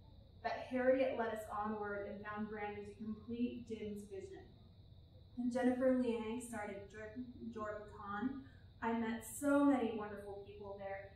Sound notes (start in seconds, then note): none